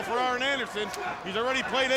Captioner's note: blows thudding; wrestlers grunting